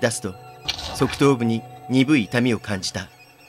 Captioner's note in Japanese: 血塗れた肉の音：ニチャァ